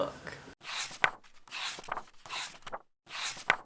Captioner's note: pages turning